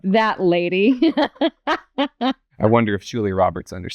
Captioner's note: laughter